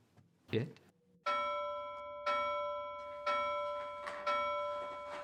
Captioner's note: clock chiming